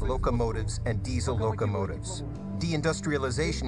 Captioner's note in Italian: parla una lingua straniera